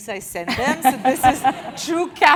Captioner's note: laugh